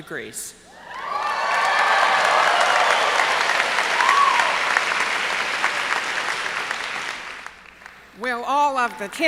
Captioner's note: cheers and applause